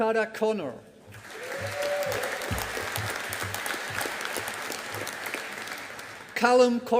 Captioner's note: audience applauding